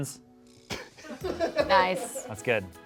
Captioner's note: laughs